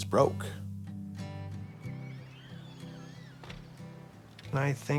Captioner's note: gentle guitar music; birds chirping